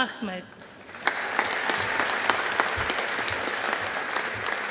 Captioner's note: audience applauding